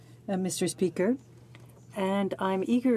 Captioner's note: speaking French